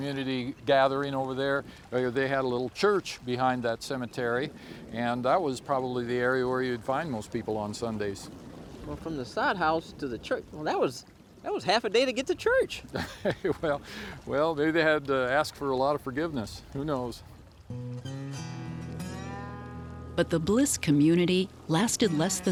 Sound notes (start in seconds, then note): 12.9 laughing